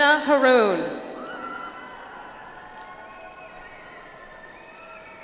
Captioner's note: audience applauds